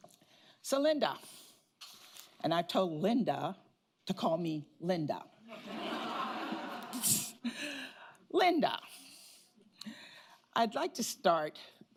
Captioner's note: laughter